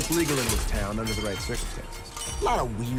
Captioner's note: metal clinking, crashing